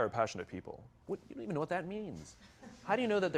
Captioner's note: laughs